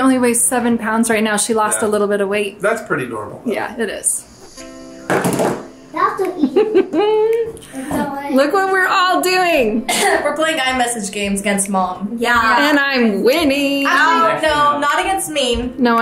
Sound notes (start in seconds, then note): 6.4 laughs; 9.8 coughs